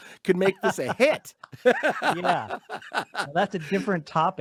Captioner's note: both laugh